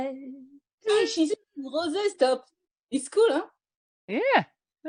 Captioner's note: sings; french accent